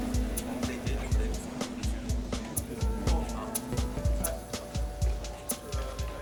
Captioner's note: people chatter indistinctly